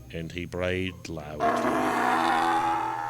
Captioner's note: donkey braying